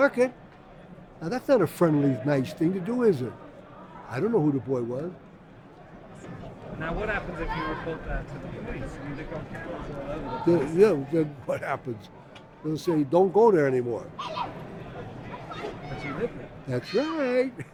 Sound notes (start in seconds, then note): 6.0 voiceover; 13.5 voiceover; 16.9 laughs